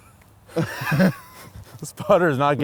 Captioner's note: laughs